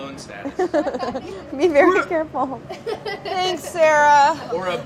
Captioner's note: laughs